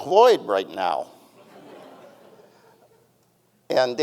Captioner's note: audience chuckling